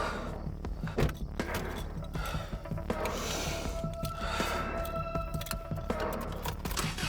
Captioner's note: door opening; stirring music continues; door shutting